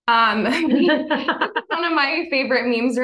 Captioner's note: both laughing